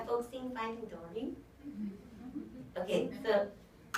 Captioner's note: audience chuckles